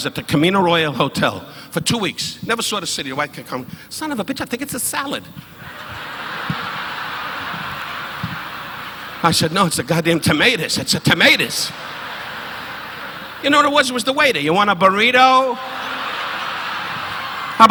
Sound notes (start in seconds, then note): 6.3 audience laughing